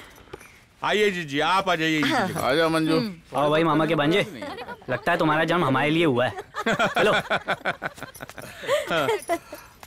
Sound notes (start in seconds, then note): 6.3 Laughs